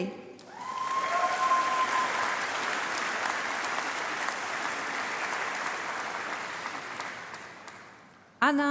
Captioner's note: applause